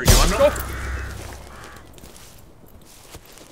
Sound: gun fires

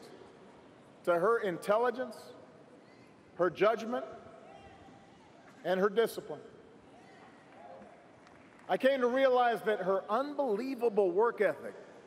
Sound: applause

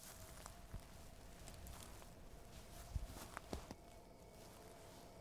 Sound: grass crunching

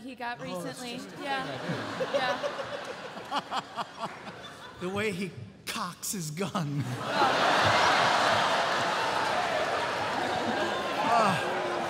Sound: groans

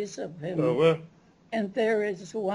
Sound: non-english speech

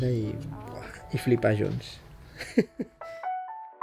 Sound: soft laughter

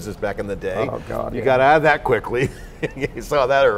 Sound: laughing

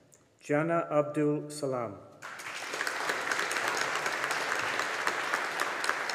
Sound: audience applauding

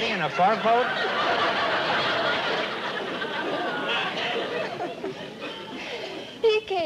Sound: laughter

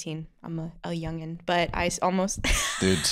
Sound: laughs

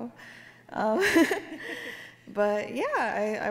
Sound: laughs

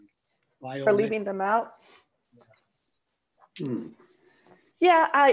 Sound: silence

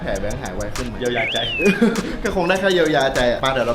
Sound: chuckles

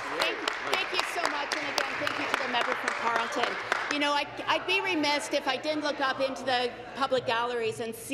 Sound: applause

